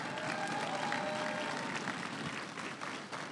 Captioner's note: crowd cheering and applauding